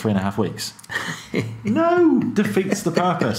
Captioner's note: laughing